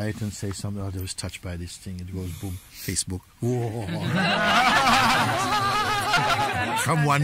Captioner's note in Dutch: gelach